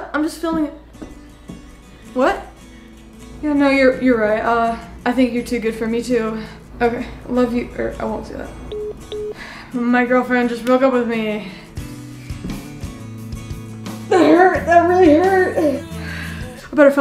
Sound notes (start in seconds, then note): 8.7 phone beeps; 11.6 somber music